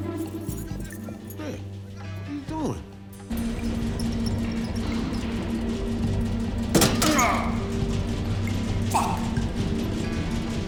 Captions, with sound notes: Rick, what're you doin'? (Rick cries out) - Fuck!